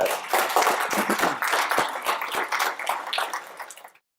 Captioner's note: applause from audience